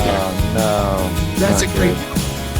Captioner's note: laughs